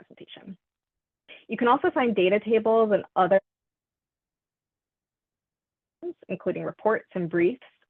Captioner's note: audio cuts out